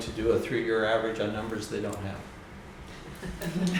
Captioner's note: laughs